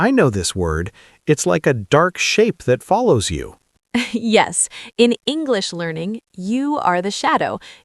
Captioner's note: laughs